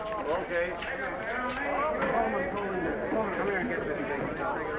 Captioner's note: crew chattering